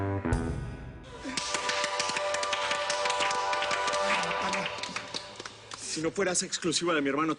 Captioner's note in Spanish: Aplausos